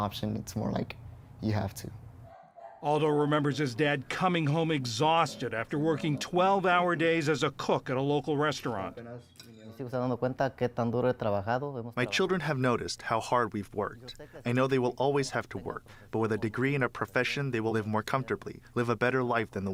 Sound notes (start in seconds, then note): 10.4 through translator